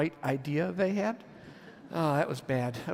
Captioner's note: audience laughs